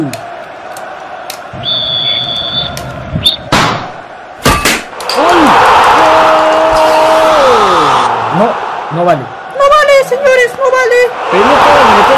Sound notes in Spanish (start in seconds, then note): 1.5 Suena silbato